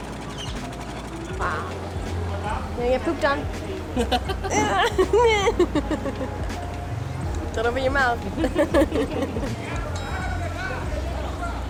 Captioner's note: laughter